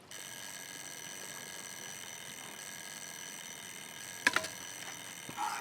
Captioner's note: alarm ringing